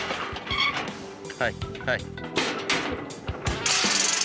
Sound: clanging sound

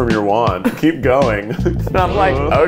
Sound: laughs

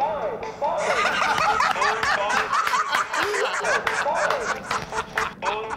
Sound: laughter

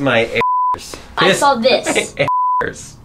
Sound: bleeping sound

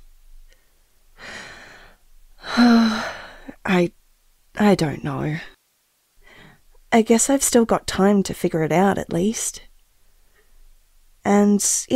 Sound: sigh

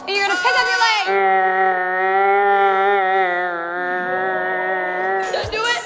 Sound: distorted, slow-motion screaming

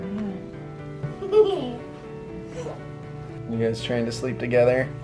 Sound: giggling

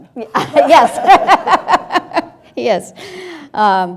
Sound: audience and panel laughing

